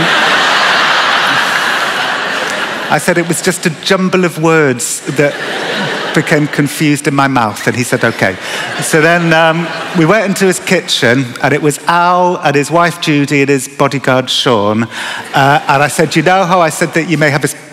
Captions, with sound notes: [ Laughter ] I said it was just a jumble of words that became confused in my mouth, and he said ok. He said, and we went into his kitchen, and it was Al, and his wife, Judy, and his bodyguard, Sean. And I said, you know how I said that you have a,